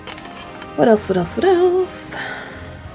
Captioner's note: singsong